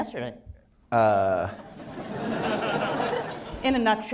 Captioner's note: laughter